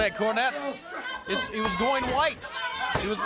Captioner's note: crowd chatter